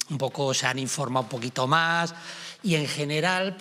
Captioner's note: none